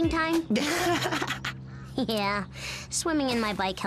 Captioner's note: laughs; chuckles